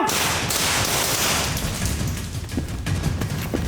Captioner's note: gun fires